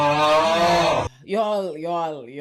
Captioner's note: audience groans